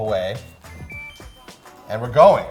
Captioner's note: melodic dinging